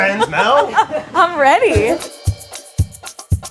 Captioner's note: laughs; upbeat drum music